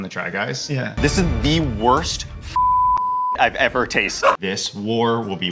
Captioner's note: beep